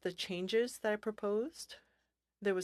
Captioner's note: speaking French